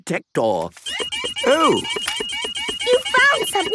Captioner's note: beeping